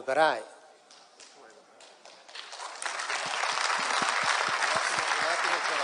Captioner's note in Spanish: Aplausos